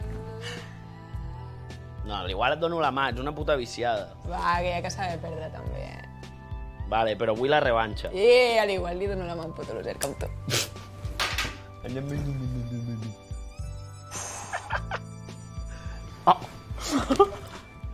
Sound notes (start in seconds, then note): 0.4 sighs; 10.4 laughs; 11.8 mumbles imitating her; 14.1 sighs; 14.5 laughs; 16.8 laughs